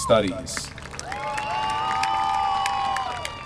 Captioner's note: applause